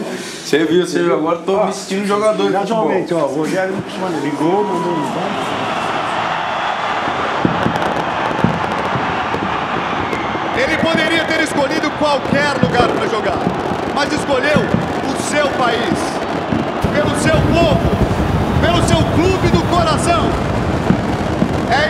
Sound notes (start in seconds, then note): 6.1 crowd cheering; 8.3 fireworks popping